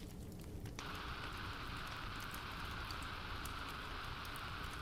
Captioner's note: radio static